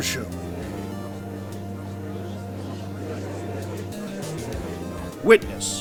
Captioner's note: gallery chattering